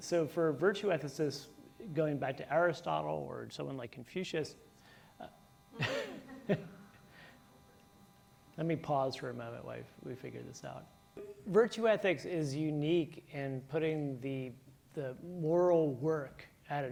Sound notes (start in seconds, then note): 5.7 chuckles